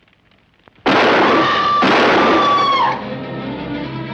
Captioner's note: gunshots